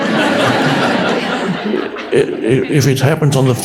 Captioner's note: audience laughs